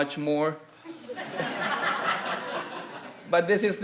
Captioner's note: audience laughing